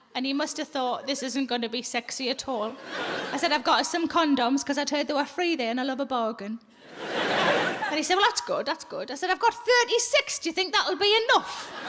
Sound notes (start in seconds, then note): 6.8 audience laughs